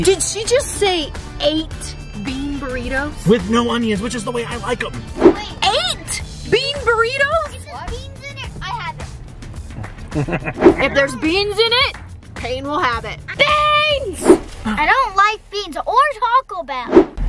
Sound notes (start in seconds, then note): 9.7 laughs